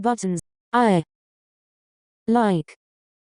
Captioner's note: Weave Chat voice